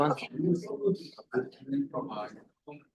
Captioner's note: people chattering